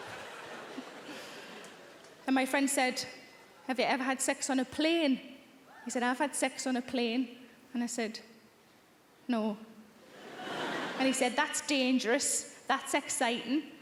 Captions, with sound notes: And my friend said, "Have you ever had sex on a plane?" He said, "I've had sex on a plane." And I said, "No." (audience laughing) And he said, "That's dangerous, that's exciting."